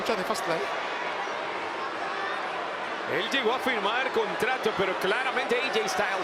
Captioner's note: applause